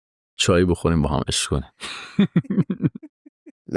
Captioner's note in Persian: خنده